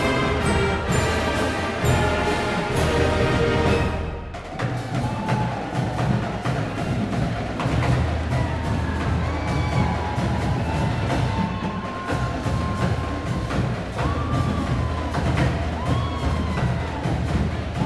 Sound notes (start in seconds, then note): 0.0 band playing; 5.0 crowd cheering